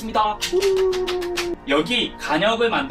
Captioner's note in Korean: 박수